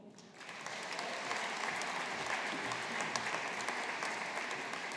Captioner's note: audience applauding